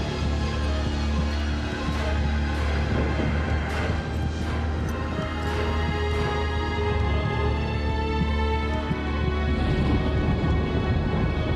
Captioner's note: heart beating